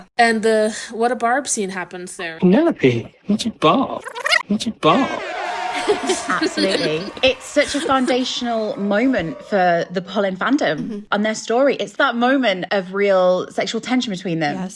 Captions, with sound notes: And the what a barb scene happens there. - "Penelope, what a barb!" (cheers and klaxon sound effects) (laughing) - Absolutely, it's such a foundational moment for the Polin fandom and their story. It's that moment of real sexual tension between them,